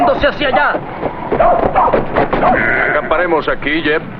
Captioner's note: barking and bleating